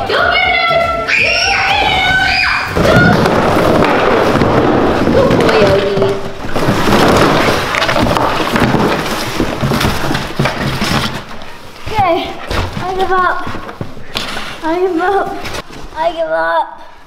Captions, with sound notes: Go get it Odes, go get it Odes! (screaming) (boxes crashing) Good boy, Odie. - Okay, I give up, I give up, I give up.